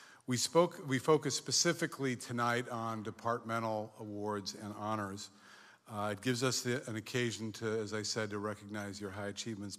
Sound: none

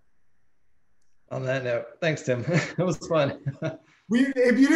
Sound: chuckles

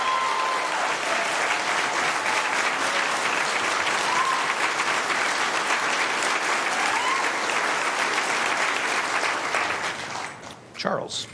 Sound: applause

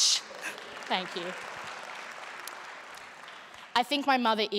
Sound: applause

